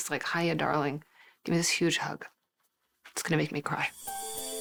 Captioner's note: voice breaking